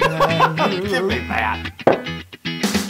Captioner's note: laugh